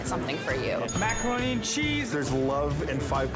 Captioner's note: bell dings